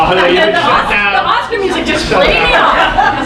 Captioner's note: audience members muttering